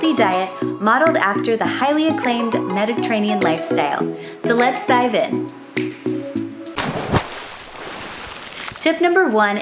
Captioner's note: dive sound effect